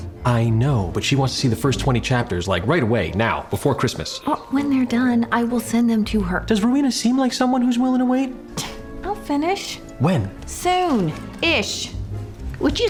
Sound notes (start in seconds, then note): 8.4 scoffs